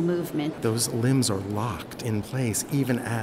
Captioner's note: voiceover